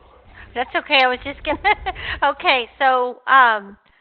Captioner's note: laughing